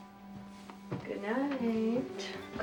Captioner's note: none